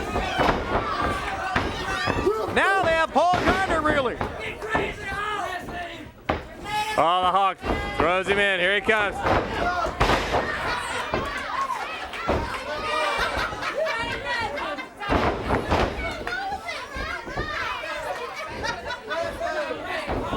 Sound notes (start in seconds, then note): 0.0 crowd cheering; 8.0 crowd cheering